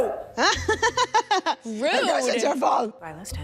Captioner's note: Sydney laughing